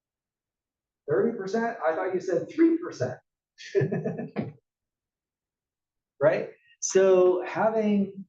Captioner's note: laugh